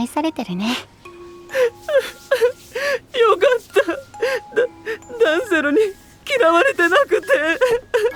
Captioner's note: wailing